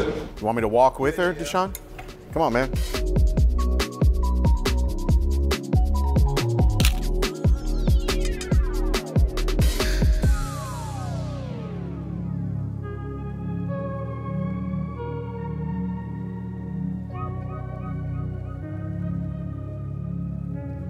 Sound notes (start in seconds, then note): 3.4 upbeat pop music continues; 7.0 camera shutter clicks